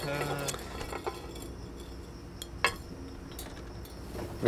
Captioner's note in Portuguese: zumbido de insetos